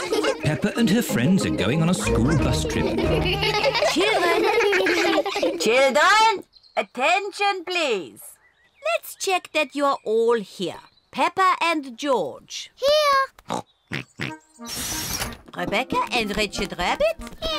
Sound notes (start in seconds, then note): 13.4 both snort